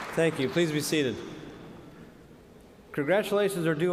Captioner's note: cheers and applause